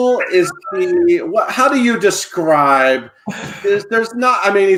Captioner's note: laughs